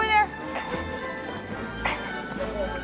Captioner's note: grunting